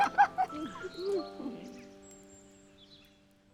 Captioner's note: both laughing